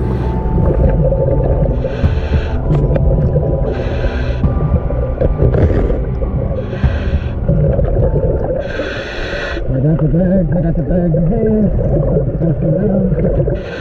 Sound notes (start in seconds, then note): 0.0 deep breathing; 0.6 bubbles churning